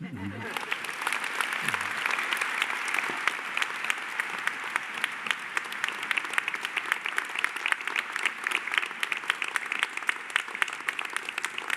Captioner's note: applause